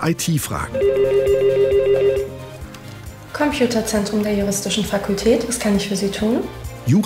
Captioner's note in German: Telefon klingelt